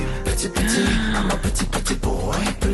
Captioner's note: gasp